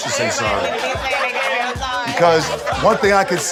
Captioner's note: crowd chattering